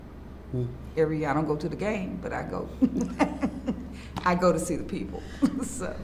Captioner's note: laughs